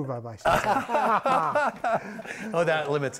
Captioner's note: laughing